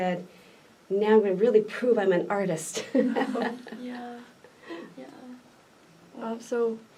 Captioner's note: laughs